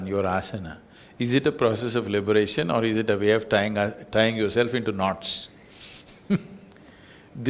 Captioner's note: laughs